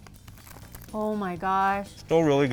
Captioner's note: wrapper crinkles